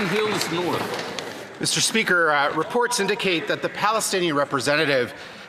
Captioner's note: some Applause